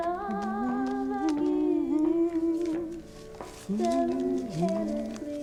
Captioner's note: humming along